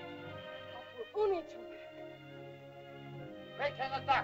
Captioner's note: dramatic music; Loana speaks in caveman language; Tumak speaks in caveman language